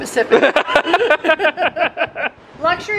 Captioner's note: pair laughing